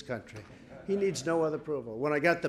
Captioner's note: laughter